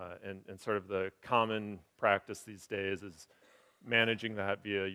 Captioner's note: none